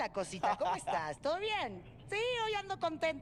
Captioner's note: ríe